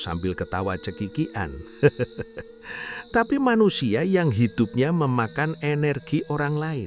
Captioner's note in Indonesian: tertawa